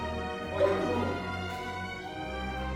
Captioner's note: loud voice far away